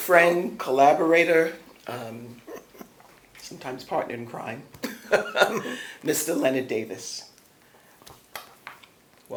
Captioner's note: laughter